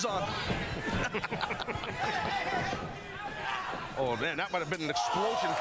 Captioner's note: crowd noise